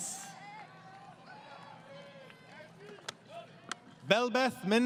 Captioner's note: crowd Cheering